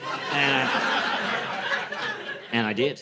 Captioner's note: laughter